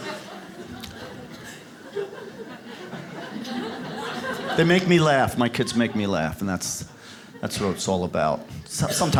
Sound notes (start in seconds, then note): 0.0 audience claps; 0.0 audience laughs